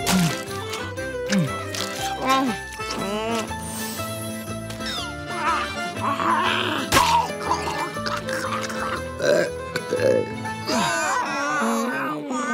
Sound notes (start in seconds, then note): 8.8 belching; 10.3 groaning